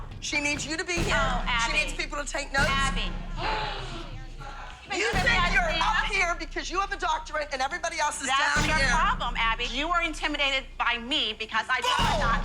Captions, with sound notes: She needs you to be here. Oh, Abby. She needs people to take notes. Abby. (gasps) You think you're up here because you have a doctorate, and everybody else is down here. That's your problem, Abby. You are intimidated by me because I do have a doctorate. Bull!